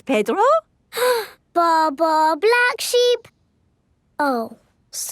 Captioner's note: inhales